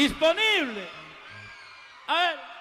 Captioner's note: crowd cheers